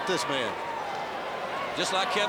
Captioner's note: crowd chatter